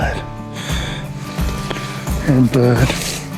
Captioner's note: grass rustling